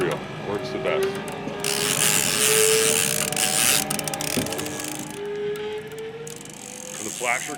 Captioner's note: reel cranking